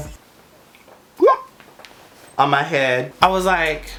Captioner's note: bloop